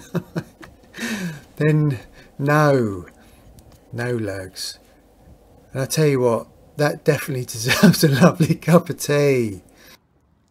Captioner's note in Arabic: يضحك